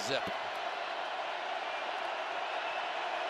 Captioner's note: crowd cheering